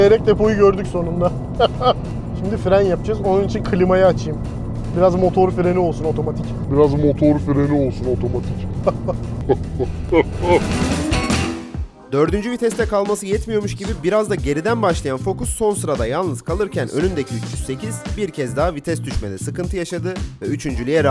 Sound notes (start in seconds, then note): 8.7 laughs in a sinister way